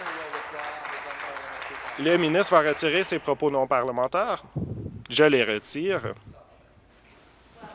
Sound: applause

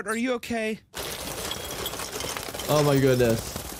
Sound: money clinking

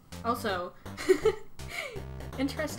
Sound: laughs

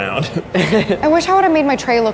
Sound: laughing

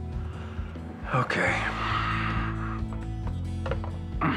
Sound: sighs, grunts

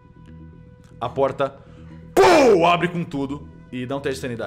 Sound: pow

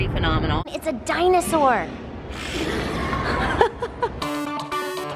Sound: woman laughing; upbeat music

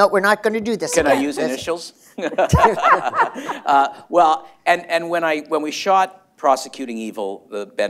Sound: laughter

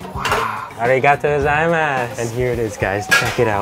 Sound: speaks in foreign language

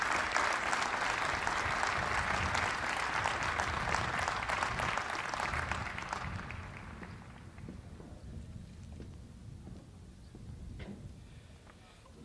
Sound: applause

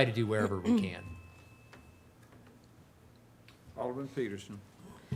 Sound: doorbell chimes

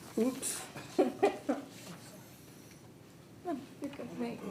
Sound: people chuckle

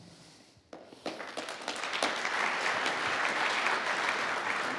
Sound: audience applauds

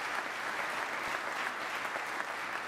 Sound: applause

